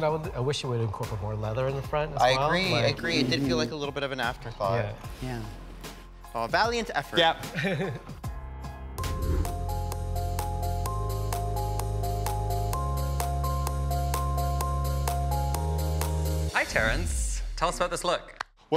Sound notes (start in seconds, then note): 7.5 chuckles; 9.0 image whooshes; 10.0 gentle upbeat music